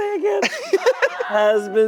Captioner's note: laughing